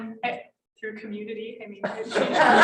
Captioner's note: laughter